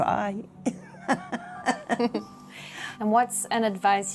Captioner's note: laughter